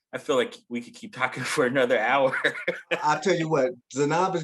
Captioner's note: chuckling